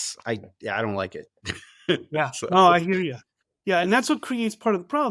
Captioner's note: laughs